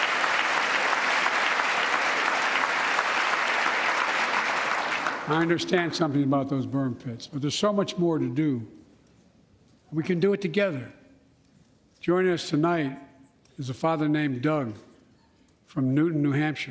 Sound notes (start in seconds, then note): 5.4 applause